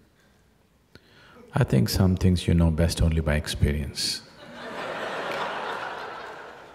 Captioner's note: laughter